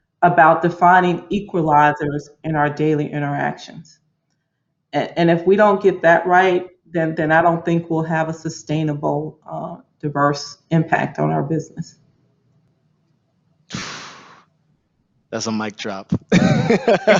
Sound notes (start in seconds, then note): 13.8 Marco exclaims; 15.4 laughs